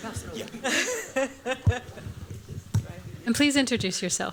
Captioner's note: laughter